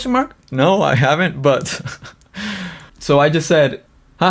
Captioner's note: laughs